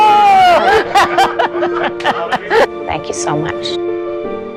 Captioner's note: laughing